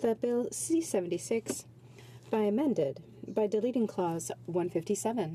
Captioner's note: speaking French